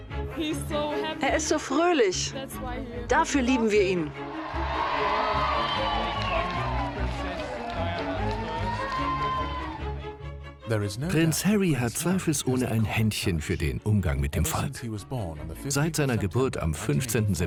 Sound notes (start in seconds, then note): 4.0 crowd cheering; 9.4 voiceover